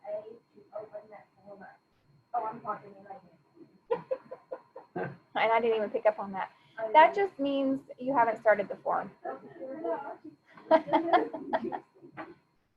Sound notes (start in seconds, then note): 3.9 laughing; 10.6 laughing